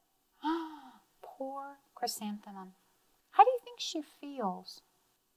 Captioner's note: gasps